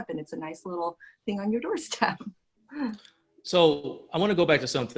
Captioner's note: laughs